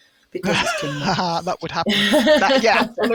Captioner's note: laughs